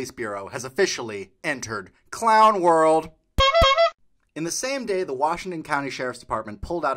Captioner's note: honk Honk